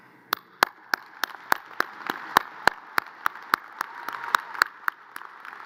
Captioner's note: audience cheers and applause